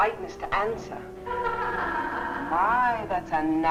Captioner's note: Vi laughing